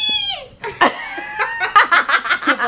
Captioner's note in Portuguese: risos